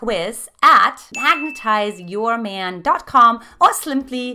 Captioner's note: dinging